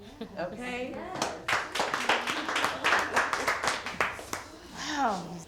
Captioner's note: crowd clapping